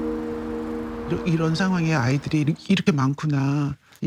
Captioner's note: speaking Korean